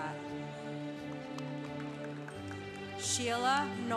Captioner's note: congregation applauding